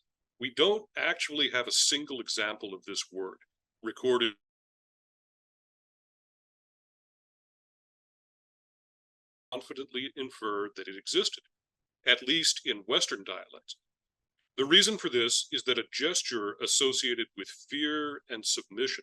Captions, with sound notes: we don't actually have a single example of this word recorded . . . [audio cuts out] . . . confidently infer that it existed, at least in Western dialects. The reason for this is that a gesture associated with fear and submission